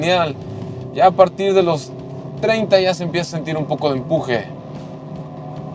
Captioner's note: engine revving